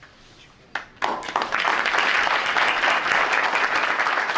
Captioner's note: applause